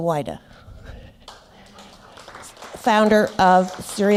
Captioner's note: applause